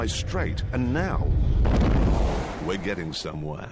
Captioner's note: explosion